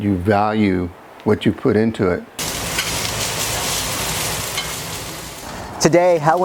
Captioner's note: grill food sizzles